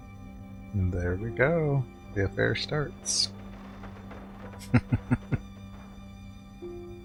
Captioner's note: chuckling